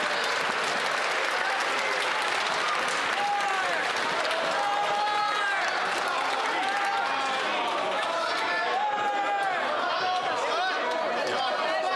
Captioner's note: cheering and Applause